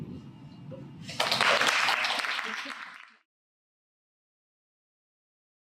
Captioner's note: applause